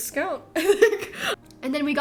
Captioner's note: laughter